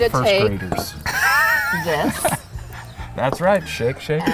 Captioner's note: laughter